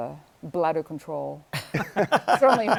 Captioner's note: laughter